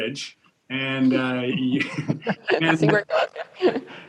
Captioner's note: laughs